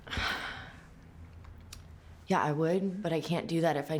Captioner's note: sighs